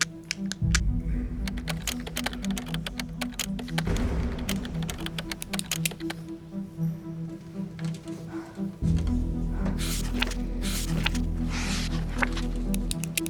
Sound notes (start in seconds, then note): 1.4 keyboard clicking; 9.7 pages shuffling; 12.1 pen clicking